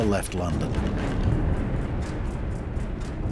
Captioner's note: explosion